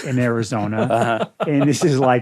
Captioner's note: laughs